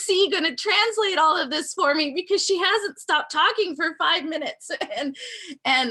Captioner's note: laughing